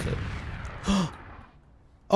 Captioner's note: shocked exhale!